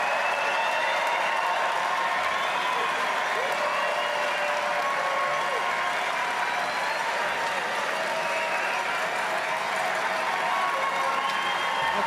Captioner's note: cheering and Applause